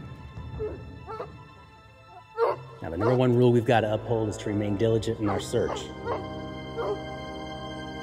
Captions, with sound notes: (dogs barking) - Now the number one rule we've got to uphold is to remain diligent in our search.